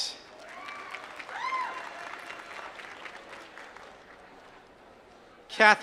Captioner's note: applause